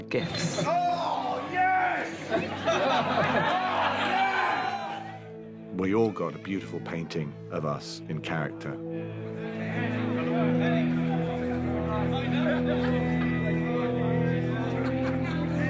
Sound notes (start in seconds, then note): 10.9 all chattering